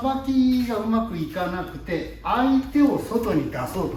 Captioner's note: body movement